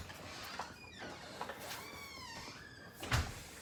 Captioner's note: door creaks